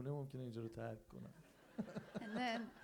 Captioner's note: crowd laughs